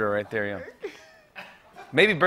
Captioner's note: laughter